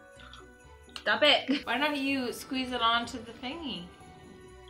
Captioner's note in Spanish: risas